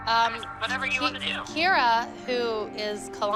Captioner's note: on phone